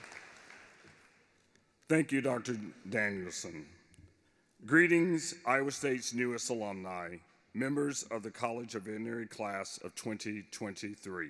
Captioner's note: applause